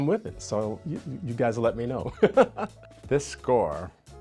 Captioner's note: chuckles